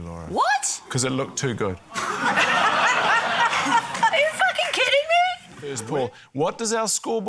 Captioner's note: laughter